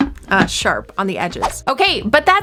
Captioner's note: whoosh